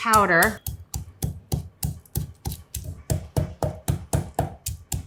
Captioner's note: spices crunching